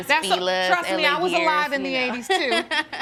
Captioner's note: laughing